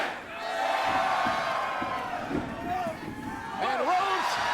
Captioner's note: audience cheering